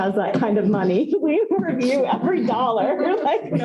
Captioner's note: laughter